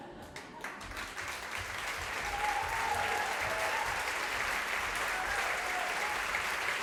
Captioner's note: audience applause